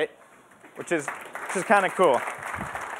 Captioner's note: applause